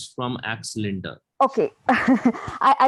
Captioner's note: laughs